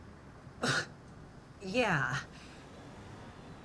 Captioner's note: scoffs